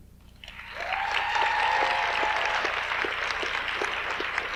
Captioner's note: audience applauds